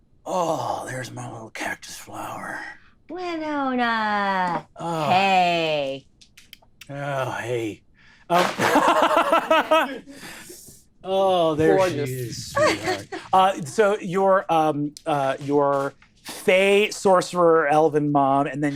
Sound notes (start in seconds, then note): 8.3 fan flapping; 8.4 laughing